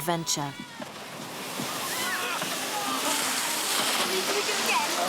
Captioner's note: splashing; laughing